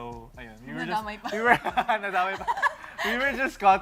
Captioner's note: chuckles